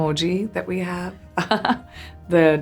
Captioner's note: Priyanka laughs